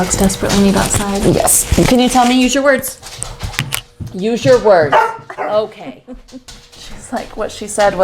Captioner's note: barking